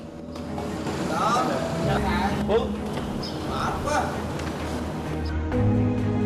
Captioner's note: indistinct chatter